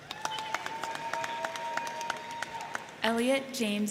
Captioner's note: crowd cheering; crowd clapping